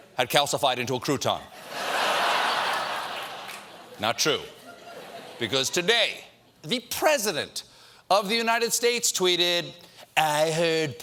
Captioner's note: laughter